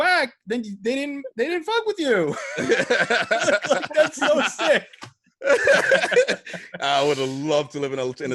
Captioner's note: laugh